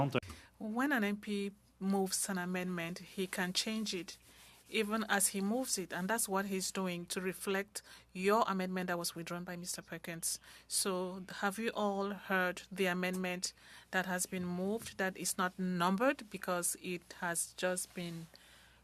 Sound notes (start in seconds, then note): 4.2 speaking French